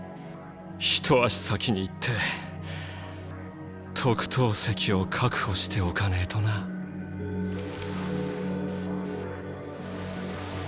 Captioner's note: sigh